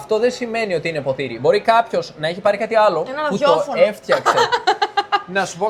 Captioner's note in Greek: γέλια